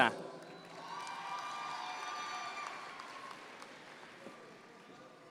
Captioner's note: audience members cheer